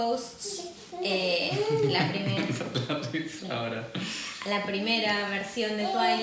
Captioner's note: laughs